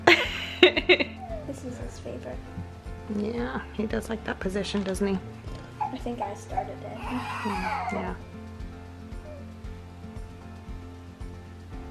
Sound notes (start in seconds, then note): 0.1 laughing; 7.3 baby crying; 8.9 soft music